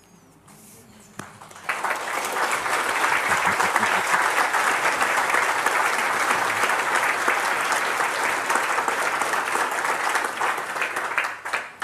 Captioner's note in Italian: Applauso